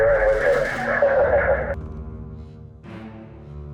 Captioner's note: man laughs